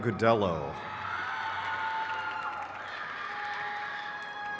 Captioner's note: crowd cheers